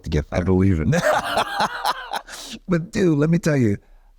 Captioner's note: Colman laughing